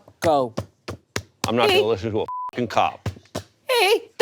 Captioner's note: beep